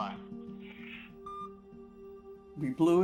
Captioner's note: phone beeping